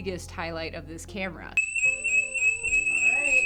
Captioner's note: alarm blaring